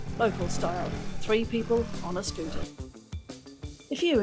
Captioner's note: motorbike noise